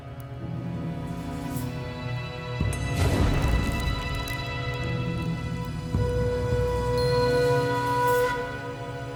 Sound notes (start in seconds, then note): 2.8 fire crackling; 2.9 fire roiling; 5.9 mysterious music